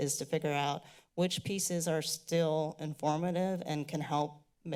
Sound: none

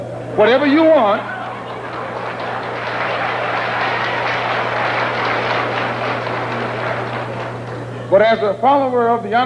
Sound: applause

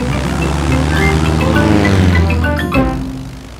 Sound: plane engine revving

